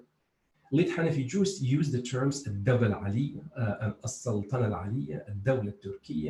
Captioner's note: speaks foreign